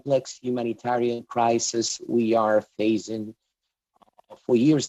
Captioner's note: speaking english